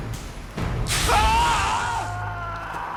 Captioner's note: sizzling; screaming